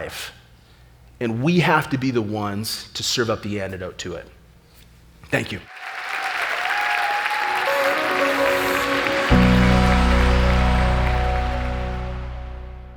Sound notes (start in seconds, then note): 5.6 applause; 7.4 upbeat music